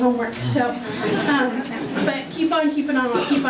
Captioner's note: audience laughing